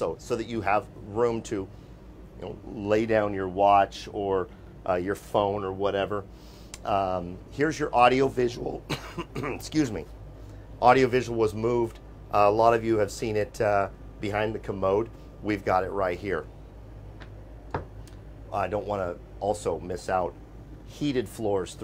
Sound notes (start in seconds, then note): 8.8 coughing